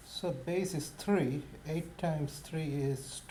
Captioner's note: voiceover